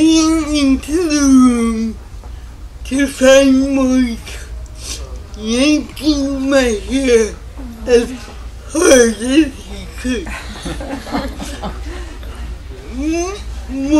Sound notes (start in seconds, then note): 10.2 laughter